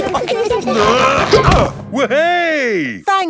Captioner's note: all giggling; grunting